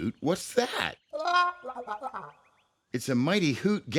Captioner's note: hooting